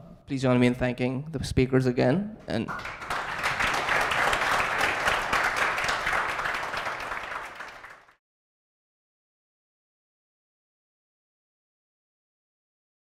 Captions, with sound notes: - Please join me in thanking the speakers again and. (audience clapping)